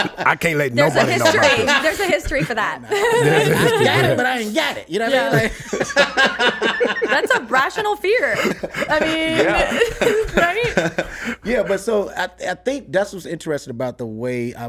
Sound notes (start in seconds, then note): 3.4 laughs; 5.9 laughs; 9.4 laughs